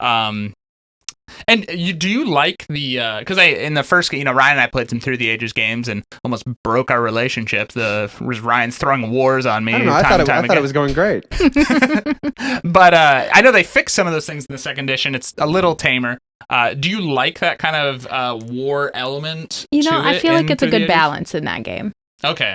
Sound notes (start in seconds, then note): 11.3 laughing